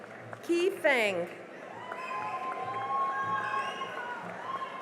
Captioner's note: cheering and applause